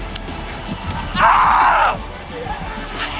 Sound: screaming

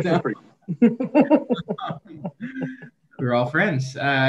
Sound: councilors laughing

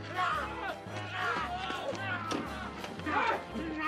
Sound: snarling

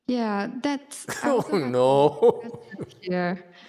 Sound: laughs

